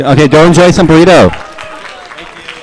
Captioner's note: applause